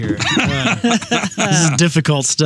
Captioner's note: laughing